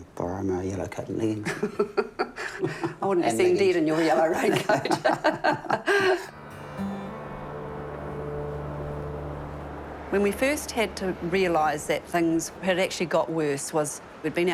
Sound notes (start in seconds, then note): 1.4 laughs; 4.3 both laugh